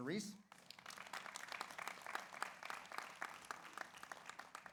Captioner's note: audience applauds